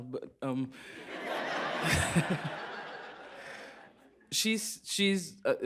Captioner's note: laughter